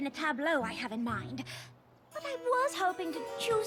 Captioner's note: gasp